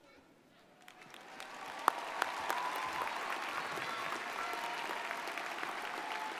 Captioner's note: audience cheers and applauds